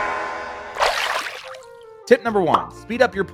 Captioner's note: water splashing